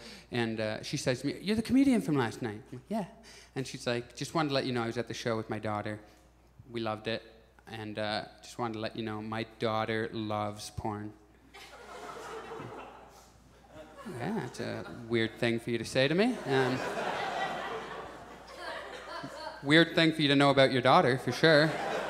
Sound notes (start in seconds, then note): 11.5 audience chuckles; 16.2 audience laughs; 21.5 audience chuckles